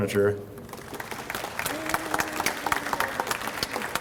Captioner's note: audience applauds